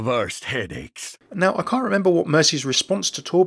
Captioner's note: voiceover